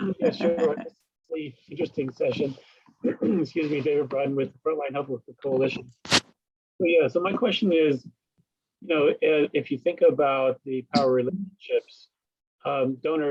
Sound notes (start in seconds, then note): 0.0 laughs; 3.0 coughs